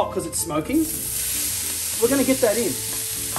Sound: pan sizzles

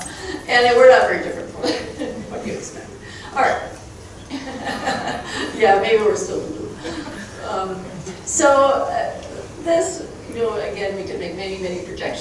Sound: chuckling

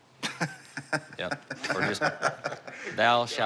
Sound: laughing

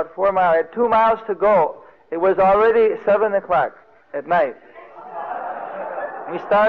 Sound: devotees laughing

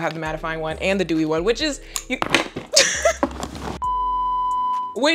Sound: beep

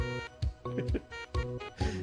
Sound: chuckles

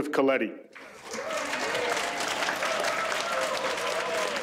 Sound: audience applauds

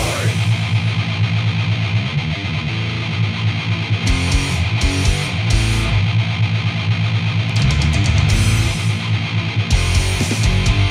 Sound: engine

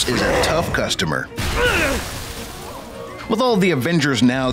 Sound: grunt

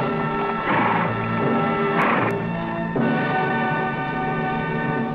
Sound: Champion snorts

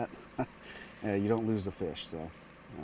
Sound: chuckling

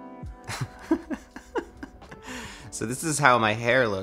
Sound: chuckles

